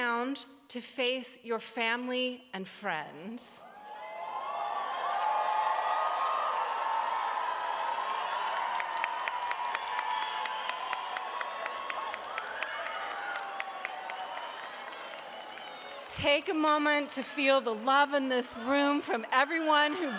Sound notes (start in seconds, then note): 4.0 cheering and applause